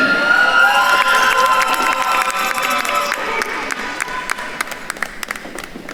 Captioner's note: attendees cheering and applauding